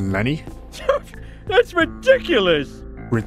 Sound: scoff

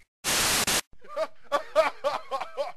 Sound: laughing

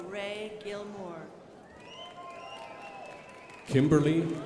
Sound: crowd applauding

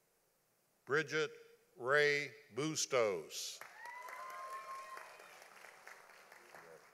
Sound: audience applauding

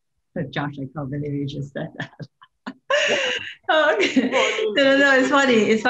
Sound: laughter

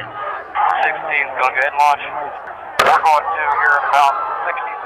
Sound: various radio chatter

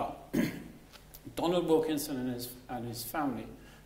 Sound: coughs

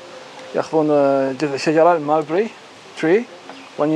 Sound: speaking foreign language

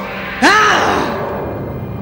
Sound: grunts

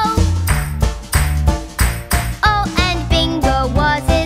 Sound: clap

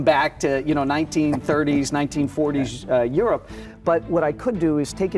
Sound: chuckling

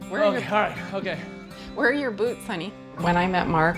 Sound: laughing

